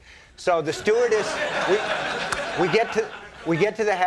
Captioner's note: audience laughing